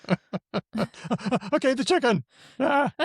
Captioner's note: laughs